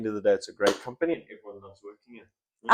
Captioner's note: clap